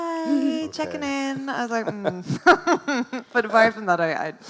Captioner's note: laughs